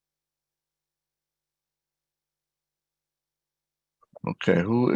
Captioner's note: silence continues